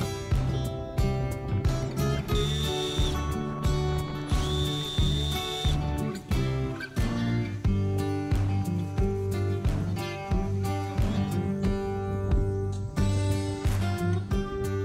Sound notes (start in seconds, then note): 2.2 drill whines; 6.2 relaxing guitar music